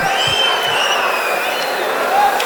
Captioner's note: wild applause and cheering for 22 seconds